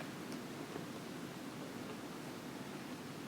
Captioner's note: none